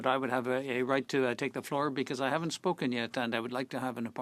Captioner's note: speaking French